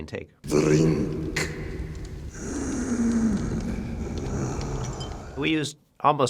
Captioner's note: wheezing